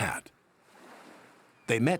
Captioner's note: waves lapping